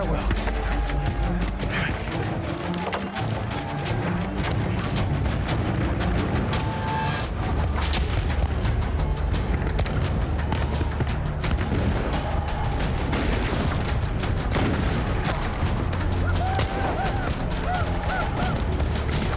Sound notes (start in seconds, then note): 15.5 gunshots